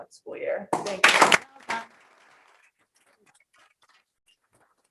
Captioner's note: group applauding